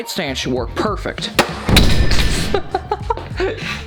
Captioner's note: explosion booming; laughing